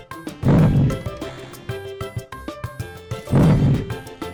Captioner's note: lion roars